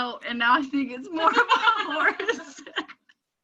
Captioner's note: laughing